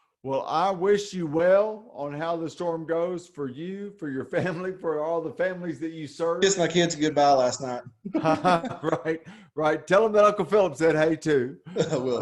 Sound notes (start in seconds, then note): 8.0 both chuckles